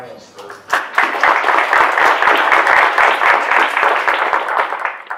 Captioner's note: audience applauding